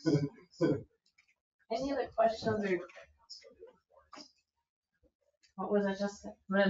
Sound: speaks distantly

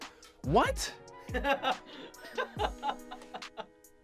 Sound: laughs

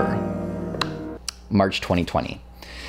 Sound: claps

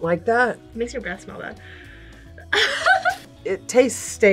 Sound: laughs

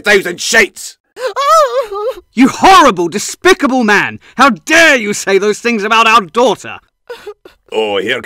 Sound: sobbing

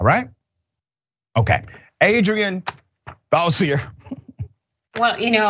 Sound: laugh

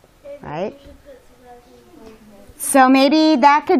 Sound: students talking

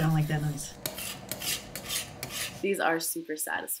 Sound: metal scraping

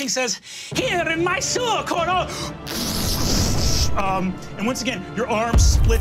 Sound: blowing air

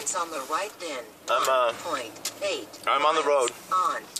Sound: GPS in background

